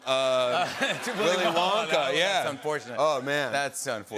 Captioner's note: laughter